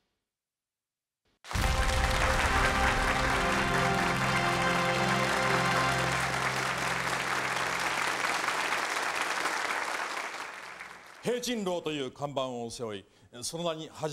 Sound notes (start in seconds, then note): 5.3 applause